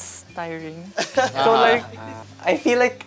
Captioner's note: laughter